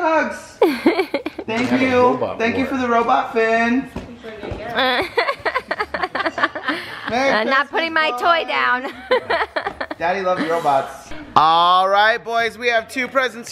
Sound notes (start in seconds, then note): 0.6 laughs; 4.8 laughter; 8.7 laughs